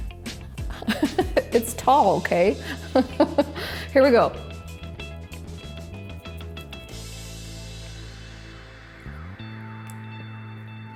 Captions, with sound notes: (chuckles) It's tall, 'kay? (chuckles) Here we go. (lighthearted music)